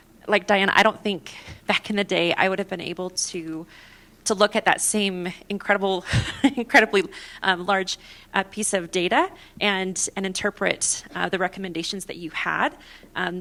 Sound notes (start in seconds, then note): 6.1 laughter